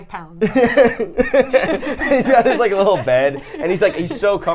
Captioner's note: laughing